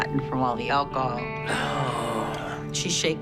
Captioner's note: groans